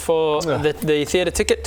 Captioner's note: ugh